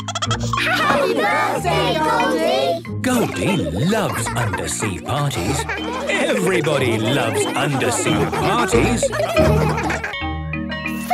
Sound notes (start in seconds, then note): 9.1 laughter